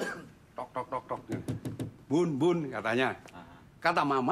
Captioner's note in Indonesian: tok tok tok